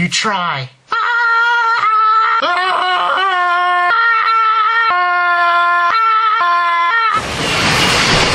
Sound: screams at each other in the most awkward way possible

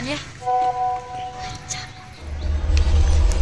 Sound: whispering

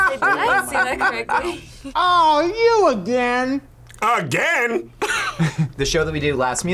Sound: laughs

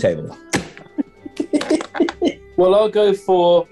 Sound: giggling

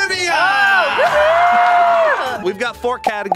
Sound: crowd cheers

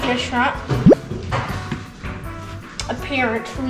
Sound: bloop noise

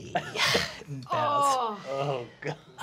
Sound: group groans

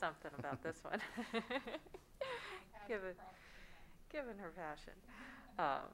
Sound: laughs

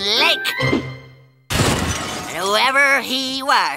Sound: crashing

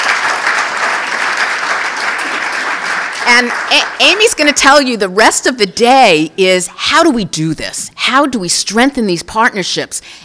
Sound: applause

